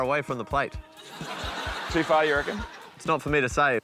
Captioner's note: laughter